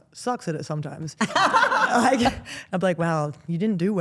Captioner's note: group laughs